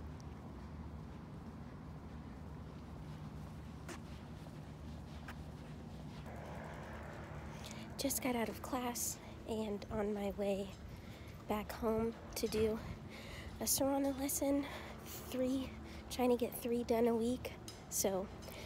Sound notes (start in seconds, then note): 3.3 soft footsteps